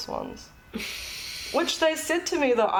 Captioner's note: chuckles